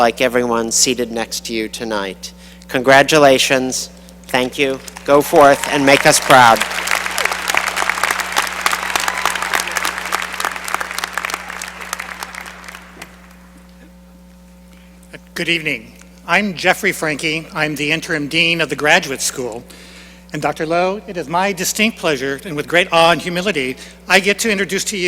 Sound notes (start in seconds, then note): 9.0 applause